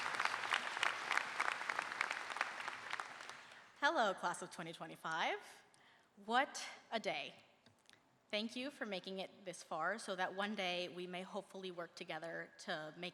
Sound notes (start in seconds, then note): 0.0 applause